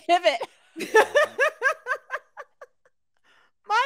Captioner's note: laughs